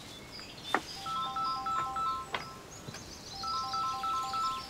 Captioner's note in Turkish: Telefon çalıyor